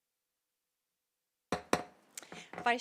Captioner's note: silence; gavel hitting dais